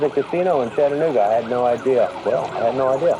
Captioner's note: and helicopters approaching